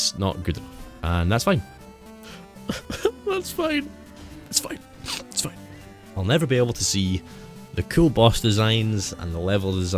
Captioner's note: cries like a babby